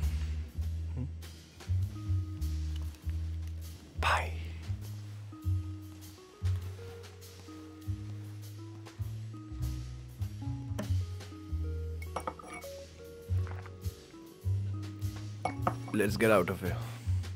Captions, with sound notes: Bye! (Clinking of glass) Let's get out of here.